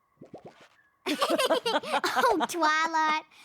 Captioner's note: both laugh